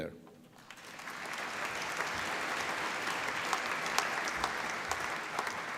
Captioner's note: applause